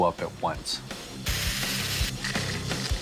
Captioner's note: sparks sizzling